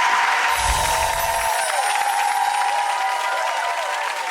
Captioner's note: applause